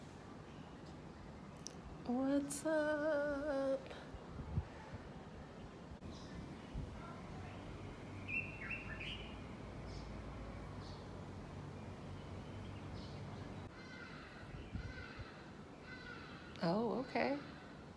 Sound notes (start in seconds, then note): 8.7 bird sounds